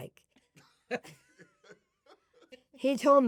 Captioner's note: they laugh